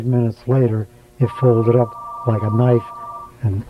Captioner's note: interview interrupted by a telephone call